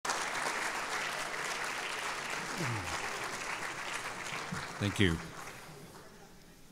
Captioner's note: applause